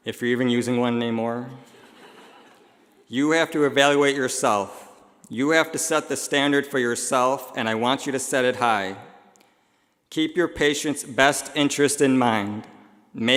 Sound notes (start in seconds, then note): 1.7 laughing